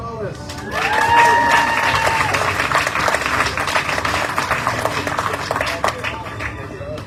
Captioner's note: audience cheering, applauding